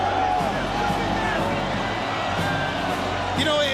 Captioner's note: crowd cheering continues